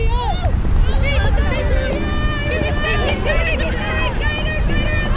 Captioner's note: teammates chattering